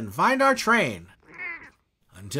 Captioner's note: meow